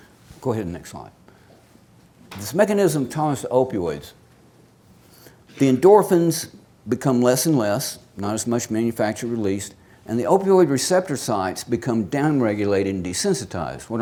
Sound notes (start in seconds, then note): none